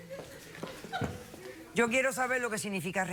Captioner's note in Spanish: risas del público